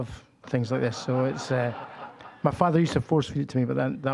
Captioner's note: audience laughing